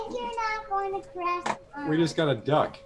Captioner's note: child talking